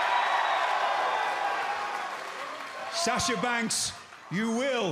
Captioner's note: crowd cheering